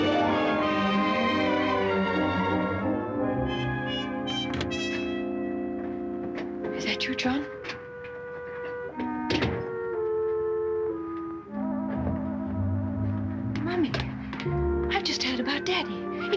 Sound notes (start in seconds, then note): 3.5 door opens; 8.9 door closes